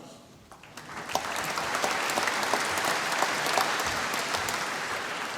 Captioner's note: applause